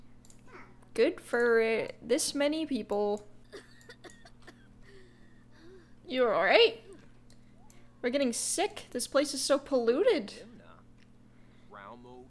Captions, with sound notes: good for this many people. [CLEO COUGHING] You alright? We're getting sick. This place is so polluted!